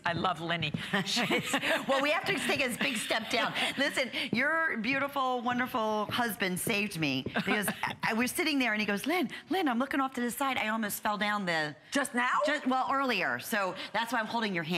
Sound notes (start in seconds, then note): 1.0 laughter